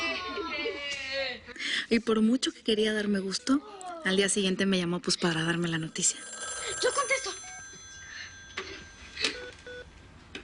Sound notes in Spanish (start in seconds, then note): 0.1 Gritos y exclamaciones; 5.7 Suena el teléfono